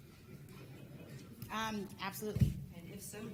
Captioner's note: audience laughs